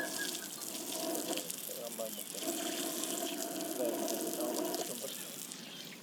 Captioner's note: water splashing